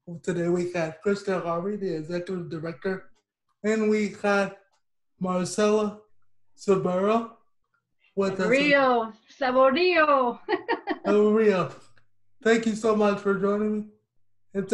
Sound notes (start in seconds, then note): 10.3 laughs